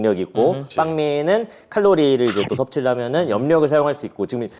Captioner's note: nom